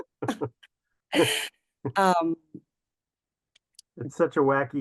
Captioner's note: both chuckle